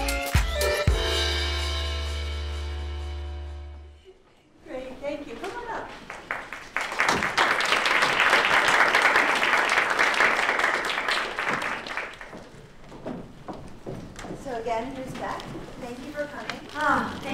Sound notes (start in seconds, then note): 6.0 applause